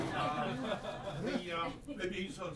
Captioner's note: laughter